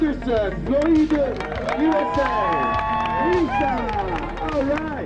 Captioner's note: cheering